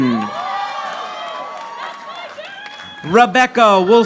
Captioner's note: audience applauding